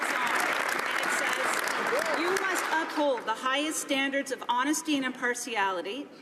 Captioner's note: some Applause